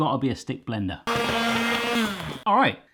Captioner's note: whirring